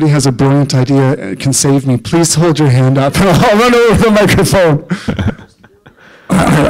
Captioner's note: laughter